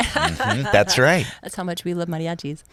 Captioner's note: laughs